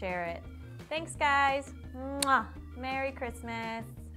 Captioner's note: kiss